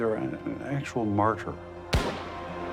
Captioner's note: gunshot